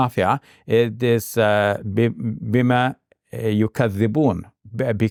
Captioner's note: speaking in Arabic